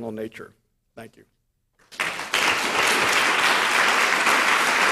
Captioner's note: audience applauds